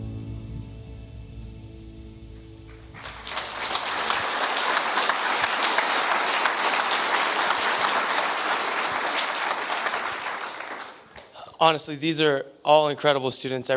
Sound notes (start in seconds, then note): 0.0 reflective music; 2.8 audience applause